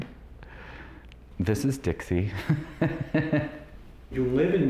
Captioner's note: laughs